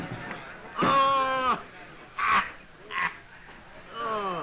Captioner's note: laughing